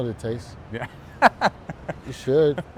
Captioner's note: laughs